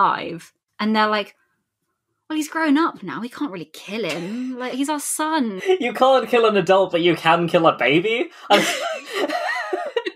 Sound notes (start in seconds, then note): 5.6 laughing; 5.6 laughs